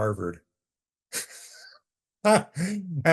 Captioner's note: laughing